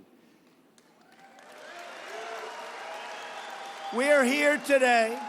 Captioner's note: applause